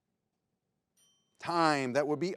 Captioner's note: bell rings